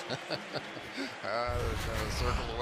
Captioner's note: chuckles